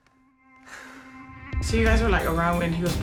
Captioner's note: sighs